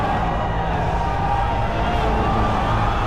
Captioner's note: riotous yelling